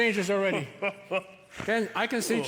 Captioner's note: Santa laughs festively